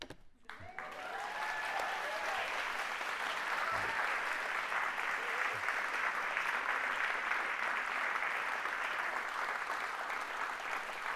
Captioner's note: cheering and applause